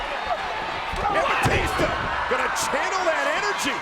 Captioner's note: body thudding